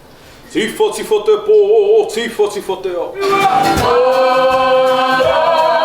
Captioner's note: chanting